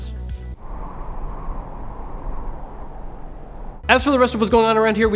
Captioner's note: wind blows